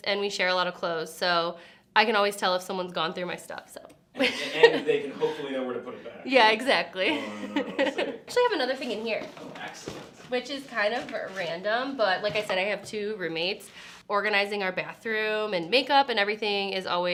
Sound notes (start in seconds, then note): 4.2 laughs